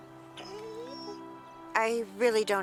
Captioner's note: Buck whines